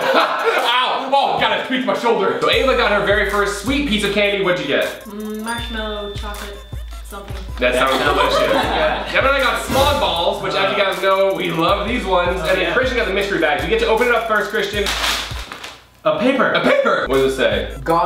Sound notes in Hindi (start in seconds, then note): 0.0 हंसते हुए; 7.6 हंसते हुए; 14.8 प्लास्टिक crinkling